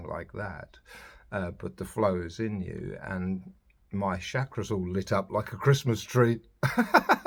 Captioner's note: laughs